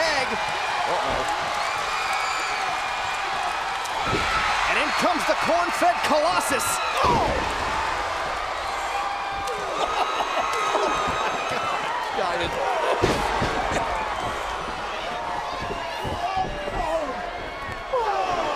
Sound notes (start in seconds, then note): 9.6 laugh